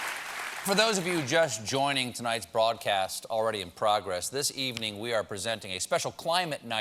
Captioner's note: applause